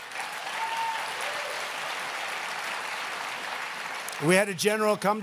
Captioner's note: applause